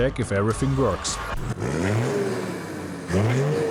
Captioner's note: engine noise